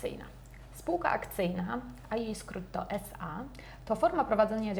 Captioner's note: in polish